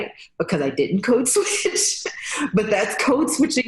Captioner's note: laughs